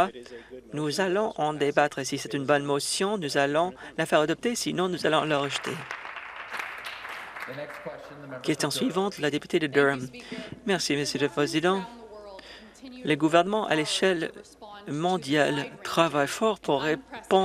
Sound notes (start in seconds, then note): 8.6 some Applause